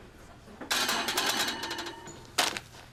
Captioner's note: rack clatters